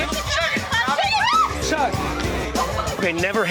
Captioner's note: screaming